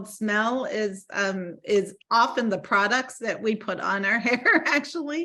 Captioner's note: laughing